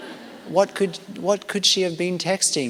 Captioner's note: laughter